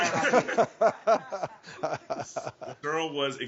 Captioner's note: everyone laughing